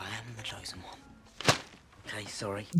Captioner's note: thwap!